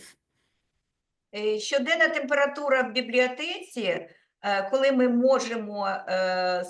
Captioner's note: speaking Ukrainian